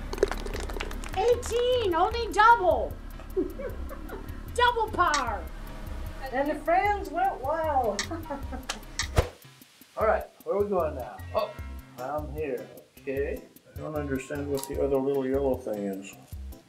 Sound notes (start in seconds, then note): 0.0 applause; 3.2 giggles; 7.9 laughs